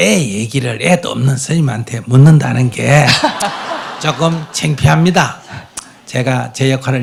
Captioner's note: audience Laughter